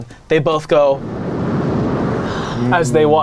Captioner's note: air bombinating